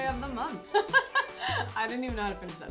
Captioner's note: laughs